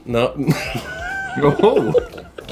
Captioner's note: laughing